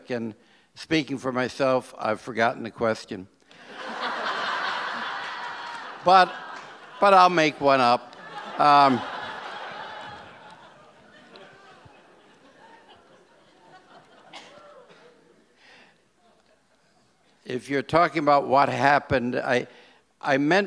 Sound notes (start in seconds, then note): 7.6 audience laughs